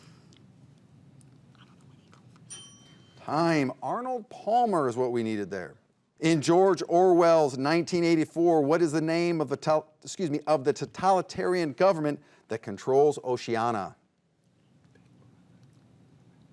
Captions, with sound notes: - I don't know either. (bell dings) Time, Arnold Palmer is what we needed there. In George Orwell's "Nineteen Eighty-Four," what is the name of the, excuse me, of the totalitarian government that controls Oceania?